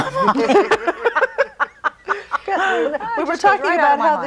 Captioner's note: laughing